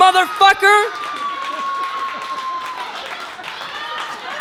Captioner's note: audience cheering